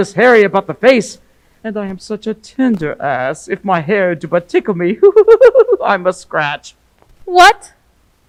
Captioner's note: giggles